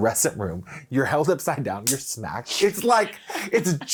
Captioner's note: hand slapping